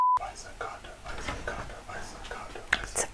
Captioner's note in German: beat boxing